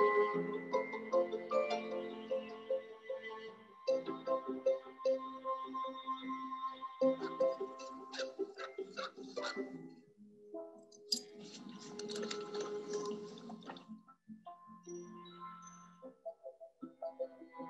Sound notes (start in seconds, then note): 8.1 dogs whimpering; 14.3 soft ambient music